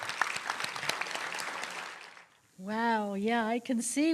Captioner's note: applause